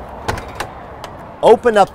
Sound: door opens

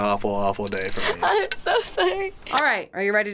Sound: laughs

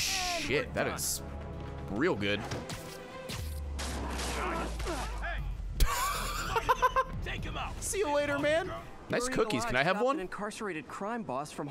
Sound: laughs

